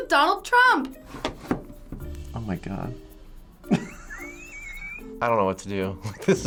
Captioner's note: wheezing